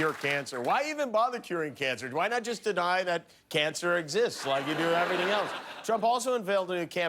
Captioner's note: cheers and applause